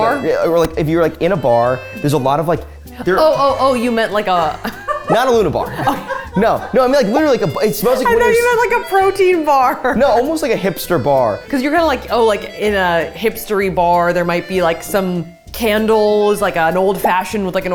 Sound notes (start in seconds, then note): 6.0 laughs